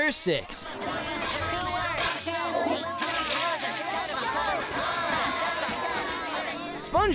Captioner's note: chattering